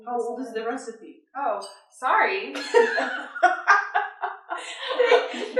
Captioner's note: laughter